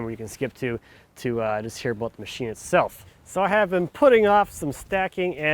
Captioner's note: none